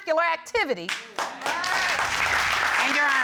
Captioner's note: audience exclaims